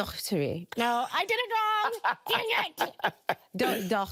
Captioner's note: laughing